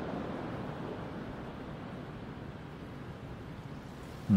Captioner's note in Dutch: Geluid van de golven vervaagt